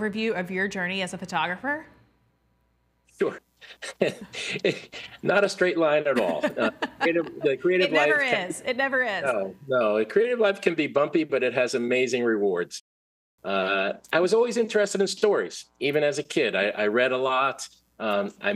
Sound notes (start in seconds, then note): 6.0 chuckling